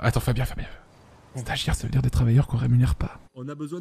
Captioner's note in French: il chuchote